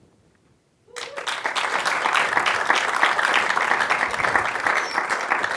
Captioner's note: audience applauding